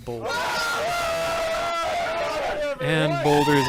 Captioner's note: yell